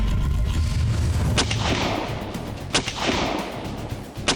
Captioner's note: gun firing